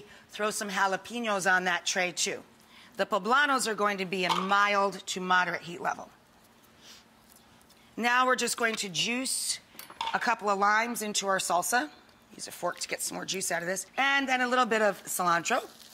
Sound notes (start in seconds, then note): none